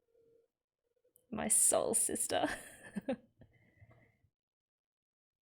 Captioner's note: laughs